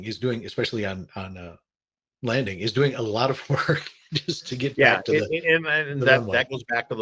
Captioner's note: chuckles